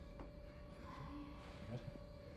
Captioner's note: whispers